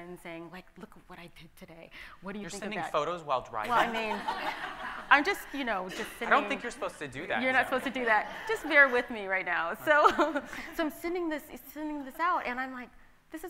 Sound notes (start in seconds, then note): 3.7 audience laughs